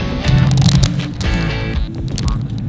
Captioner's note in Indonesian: suara mobil